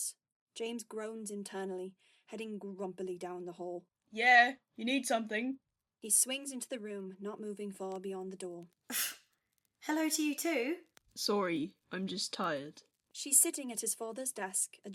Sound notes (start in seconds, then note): 8.9 his mother snorts